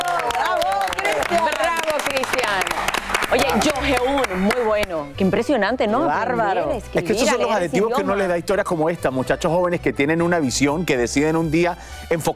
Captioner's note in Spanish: aplausos